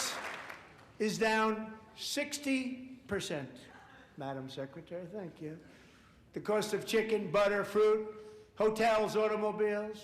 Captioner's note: applause